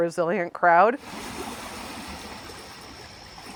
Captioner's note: water lapping